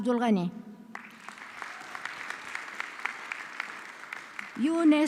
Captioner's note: audience clapping